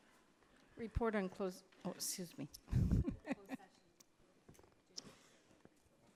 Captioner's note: laughs